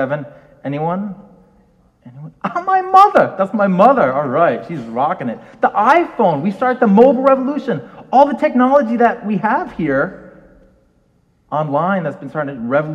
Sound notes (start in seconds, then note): 2.9 chuckles